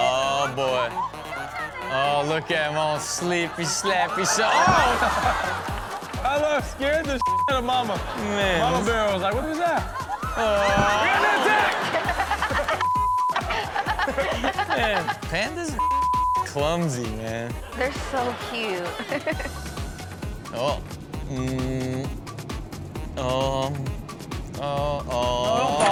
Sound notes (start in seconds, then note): 7.2 beep; 12.0 Chanel laughs; 15.8 beep; 17.3 laughs